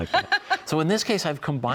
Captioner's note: laughter